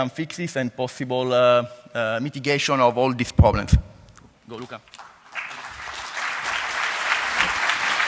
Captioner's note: applause